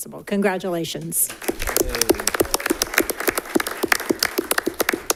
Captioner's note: all clapping